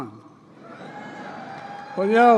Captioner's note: applause